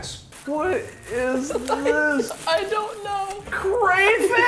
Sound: giggling

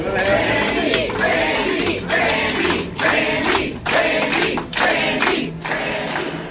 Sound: crowd

